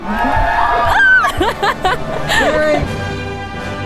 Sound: squeals

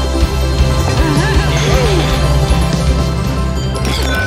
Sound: bottle clangs as it hits the ground

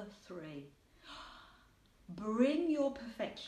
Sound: gasps

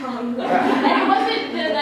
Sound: laughter

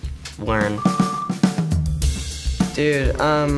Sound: beeps

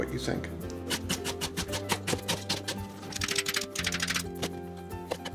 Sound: knife chopping

